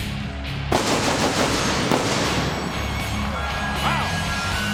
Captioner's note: pyrotechnics bursting; audience cheering